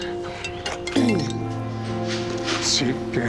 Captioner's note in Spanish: Suena el celular